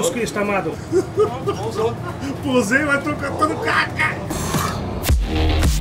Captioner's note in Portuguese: risos; risos